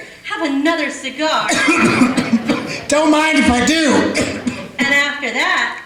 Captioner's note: coughs